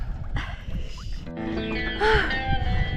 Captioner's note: gasps